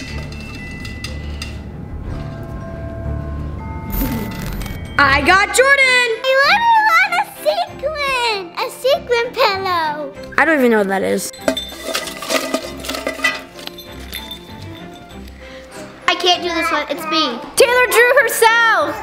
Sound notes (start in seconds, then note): 0.2 ominous Christmas music; 11.4 metal bucket clanking; 13.7 uplifting Christmas music